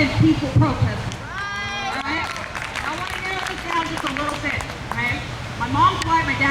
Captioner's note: crowd cheers